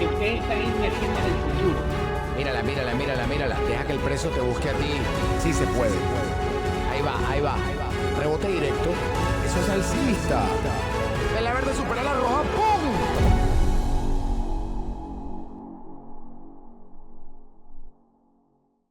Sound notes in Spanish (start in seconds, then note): 6.1 Espanol